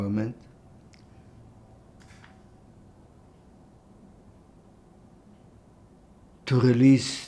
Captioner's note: pauses 6 seconds